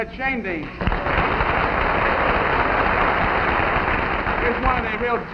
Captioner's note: audience clapping